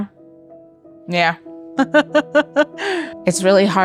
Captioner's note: laughs